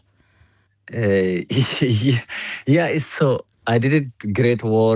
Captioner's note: laughs